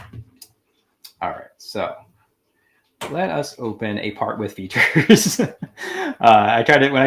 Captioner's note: laughing